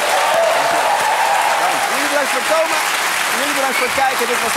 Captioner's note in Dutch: gejuich en applaus